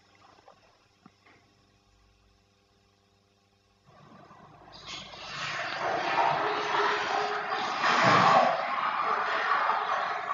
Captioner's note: water running in the background